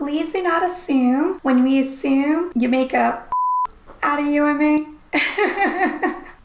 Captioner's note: beep; laughs